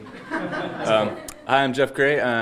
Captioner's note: audience laughing